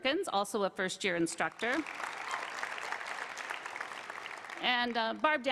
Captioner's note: applause